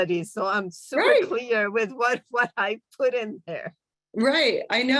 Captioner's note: laughter